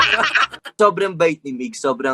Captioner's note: laughing